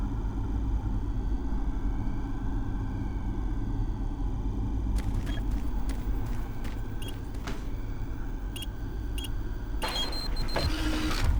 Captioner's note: ticking